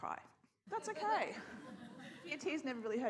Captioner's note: scattered laughter